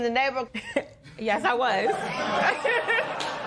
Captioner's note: chuckle; laughter